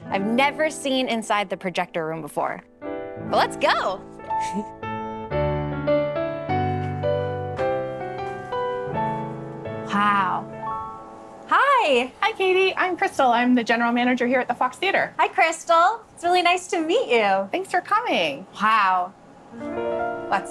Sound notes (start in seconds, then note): 4.4 laughing; 5.4 light music continues; 19.5 light music continues